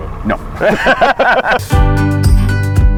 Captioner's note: both laughing; bright music